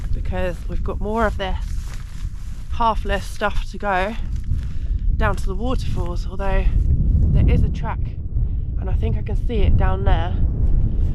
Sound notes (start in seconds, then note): none